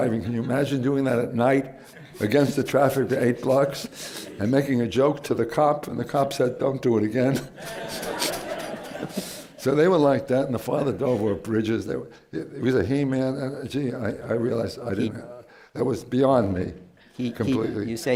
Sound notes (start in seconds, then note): 7.3 laughter